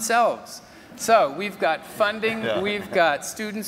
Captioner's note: laugh